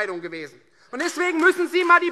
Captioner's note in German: Beifall Freie Demokraten und vereinzelt CDU